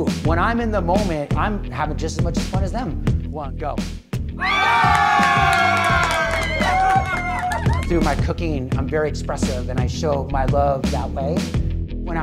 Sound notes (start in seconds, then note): 4.4 crowd cheers and applauds